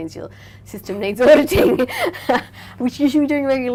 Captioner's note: laughing